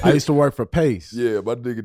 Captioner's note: laughing